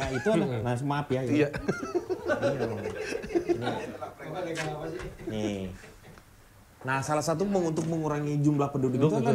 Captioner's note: laughs